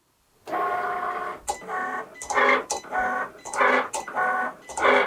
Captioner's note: machine whirring